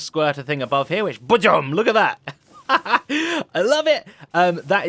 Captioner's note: laughs